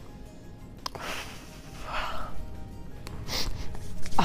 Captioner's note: sighs